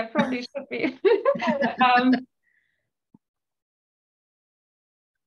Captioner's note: laughter